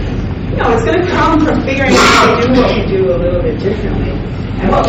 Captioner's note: coughing drowns out speaker